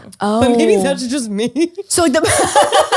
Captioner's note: laughter